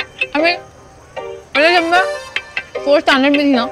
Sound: none

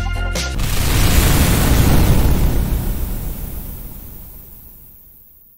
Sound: explosion!

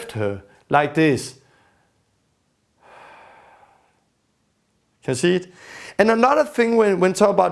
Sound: outward breath

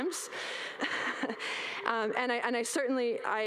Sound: audience laugh

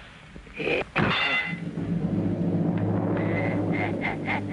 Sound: bell ringing; sinister laughter

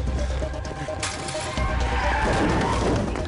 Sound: tires squeal

